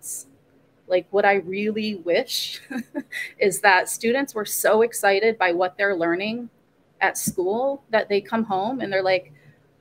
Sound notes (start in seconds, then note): 2.6 laugh